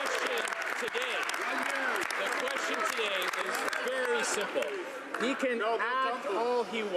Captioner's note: some Applause